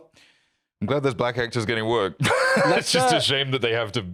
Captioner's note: laughs